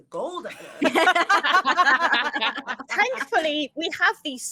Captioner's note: all laugh